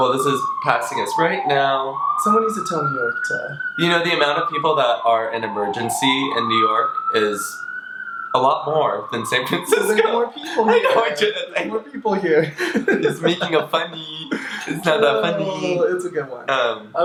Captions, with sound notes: - Well, this is passing us right now. - Somebody needs to tell New York to-- - You know, the amount of people that are in emergency in New York is a lot more than San Francisco. (laughs) - Well, there's more people here. - I'm just making a funny, it's not that funny. - It's a good one.